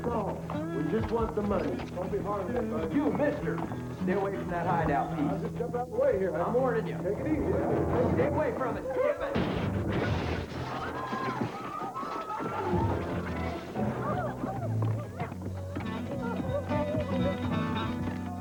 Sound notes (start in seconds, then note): 10.6 people screaming